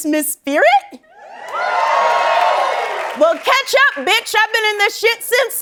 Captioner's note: cheers and applause